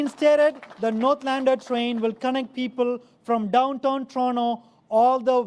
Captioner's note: applause